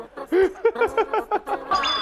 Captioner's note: hahaha